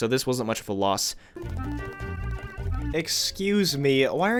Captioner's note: applause